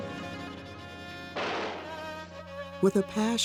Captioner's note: dramatic music; gun firing